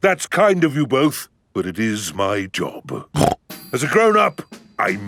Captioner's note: snorts